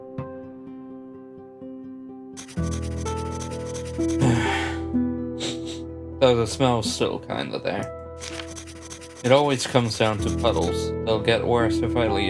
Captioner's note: exhale, sniff sniff